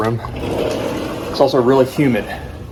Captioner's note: door sliding